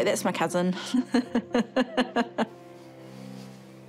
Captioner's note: laughs